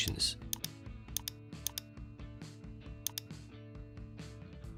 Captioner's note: keyboard clicks